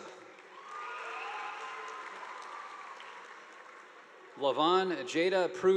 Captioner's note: audience applauding